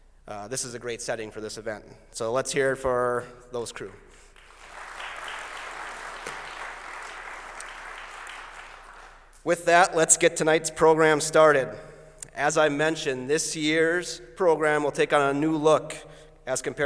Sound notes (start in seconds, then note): 4.2 applause